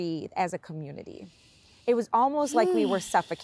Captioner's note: sighs